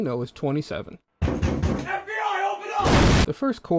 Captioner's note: knocking